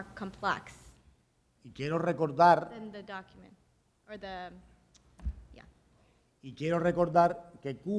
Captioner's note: speaking in Spanish